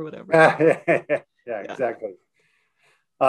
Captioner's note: laughing